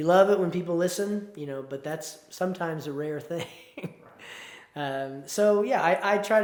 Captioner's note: chuckles